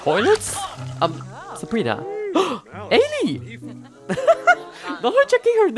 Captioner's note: gasp